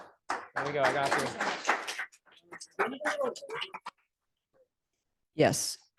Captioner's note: audience applauding